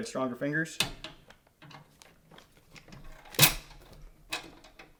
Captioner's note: metal clinking